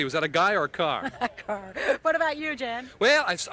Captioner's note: laughs